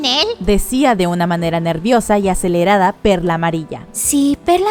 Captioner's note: Yellow Pearl said in a nervous and accelerated